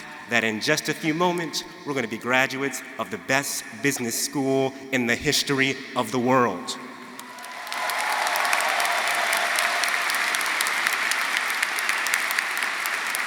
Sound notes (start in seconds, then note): 7.2 audience applauding; 7.2 audience cheering